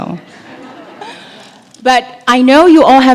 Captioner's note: laugh